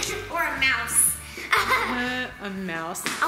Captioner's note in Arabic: يضحك